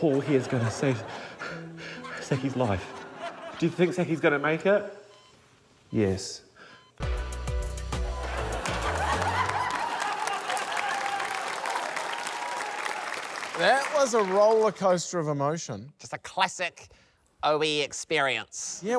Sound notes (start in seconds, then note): 8.2 laughter; 11.2 applause